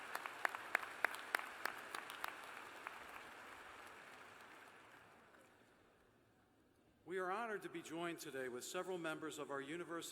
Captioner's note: cheers and applause